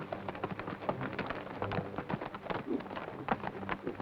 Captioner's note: hooves clop